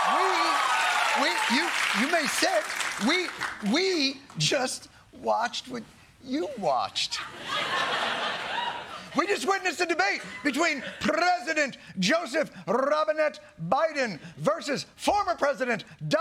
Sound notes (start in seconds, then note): 0.0 applause; 7.2 laughter